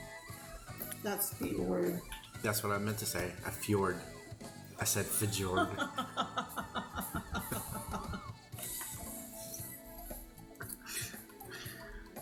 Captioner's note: laughter